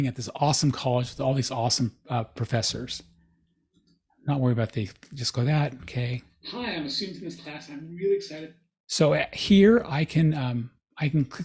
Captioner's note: recording playing